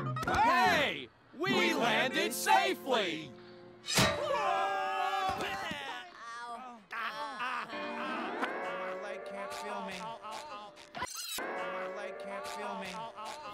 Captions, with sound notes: Hey, we landed safely. [screaming] [groaning]